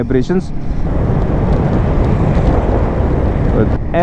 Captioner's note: wind noise